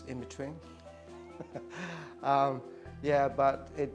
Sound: laughs

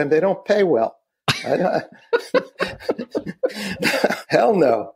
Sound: laughing

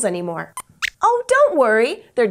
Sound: squeaks squeaks

